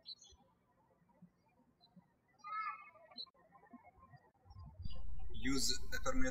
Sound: birds chirping

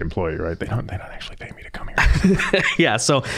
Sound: whispering; laughing

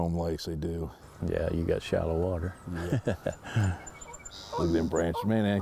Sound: laughs

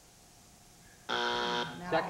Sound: buzzer

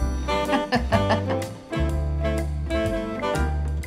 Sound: laughs

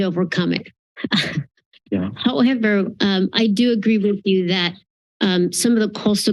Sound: chuckles

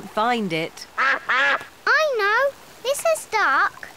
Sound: quacking

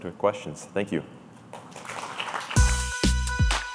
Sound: applause

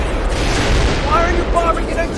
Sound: explosions

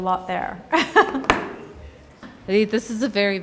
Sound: laughs

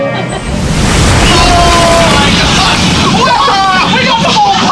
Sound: water splashes

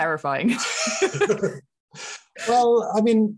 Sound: laughing

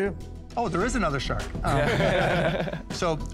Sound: laughter

